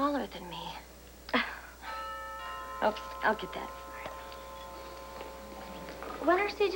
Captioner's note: drbell rings